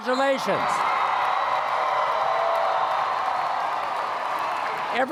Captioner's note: applause